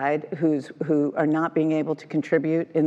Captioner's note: none